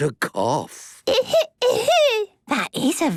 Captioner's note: coughing